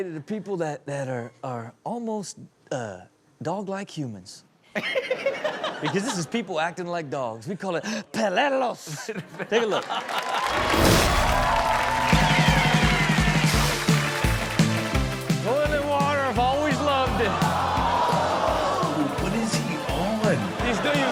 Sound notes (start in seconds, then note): 4.7 Cesar laughs; 4.9 audience laughs; 10.6 audience cheers; 12.6 upbeat music